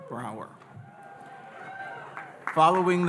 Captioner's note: audience cheering